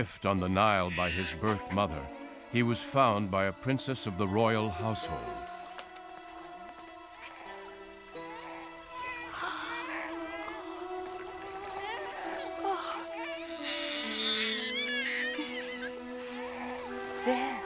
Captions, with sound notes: HE WAS FOUND BY A PRINCESS OF THE ROYAL HOUSEHOLD. (gasps) (baby crying) THERE, THERE.